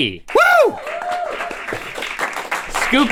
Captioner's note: crew applauds